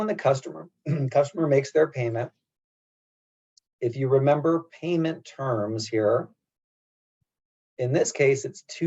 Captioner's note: cough